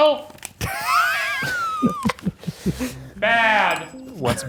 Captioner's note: laughing